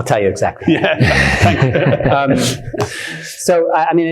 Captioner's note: attendees laughing